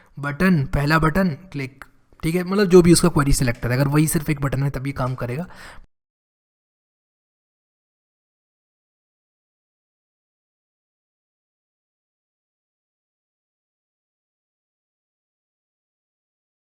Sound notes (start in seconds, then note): 6.0 silence